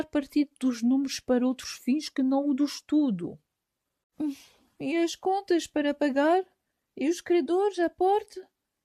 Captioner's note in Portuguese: Suspiro!